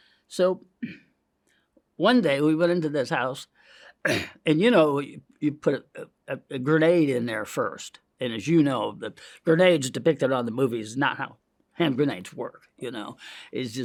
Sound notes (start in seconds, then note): 4.0 clears throat